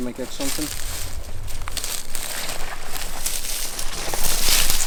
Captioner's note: leaves rustling